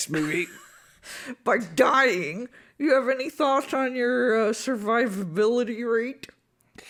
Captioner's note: laughs